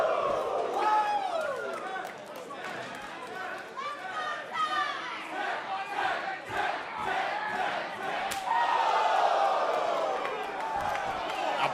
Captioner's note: crowd cheering